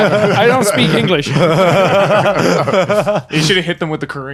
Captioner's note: laughing